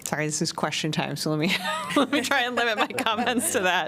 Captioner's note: laughter